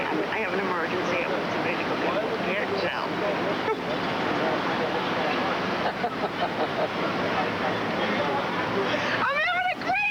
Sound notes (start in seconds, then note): 5.8 Officer Ridge laughing